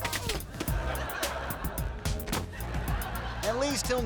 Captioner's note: audience laughing